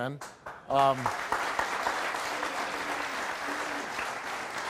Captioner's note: audience applauds